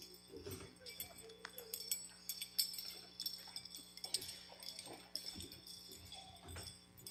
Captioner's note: bells ringing